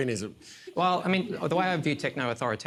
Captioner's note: laughter